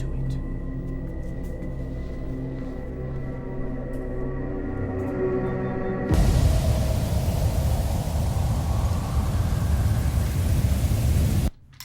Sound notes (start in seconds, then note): 0.2 dramatic music; 6.0 wind gushing